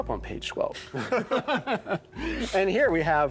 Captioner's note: laughter